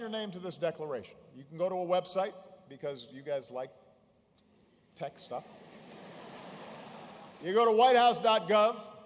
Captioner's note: laughter